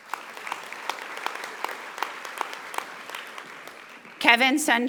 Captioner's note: audience applauding